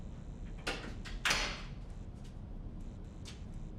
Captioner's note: door closes